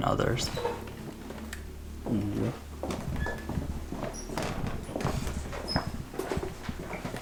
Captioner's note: doors opening; footsteps